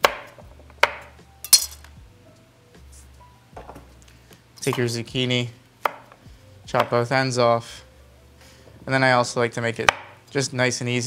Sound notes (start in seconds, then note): 6.7 vegetable chopping